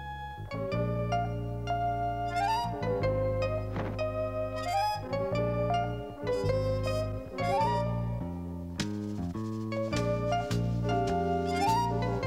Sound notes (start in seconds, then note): none